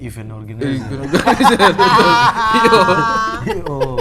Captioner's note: laughing